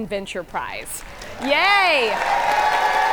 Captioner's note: audience applaud; audience cheer and applaud